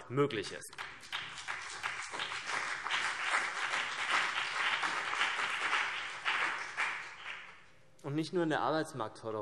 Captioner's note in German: Beifall CDU und BÜNDNIS 90/DIE GRÜNEN